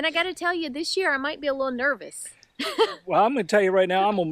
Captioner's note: laughs